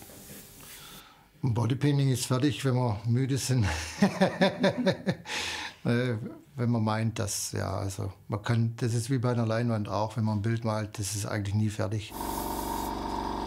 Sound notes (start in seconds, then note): 3.6 he laughs